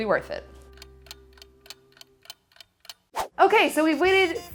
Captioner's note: clock ticking